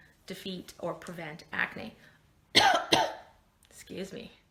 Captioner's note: coughing